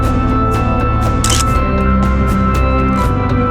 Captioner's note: photo Click